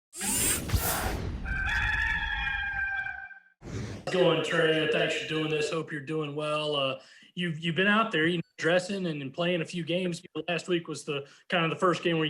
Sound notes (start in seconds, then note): 1.4 rooster crowing